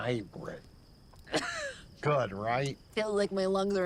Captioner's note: coughs